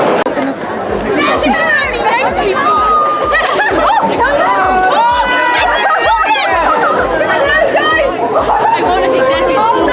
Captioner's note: cheering and crowd noise